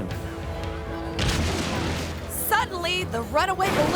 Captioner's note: balloon crashing